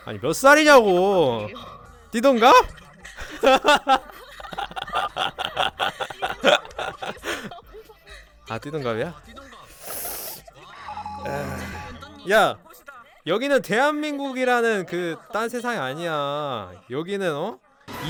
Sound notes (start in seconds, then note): 2.4 laughs; 11.2 sighing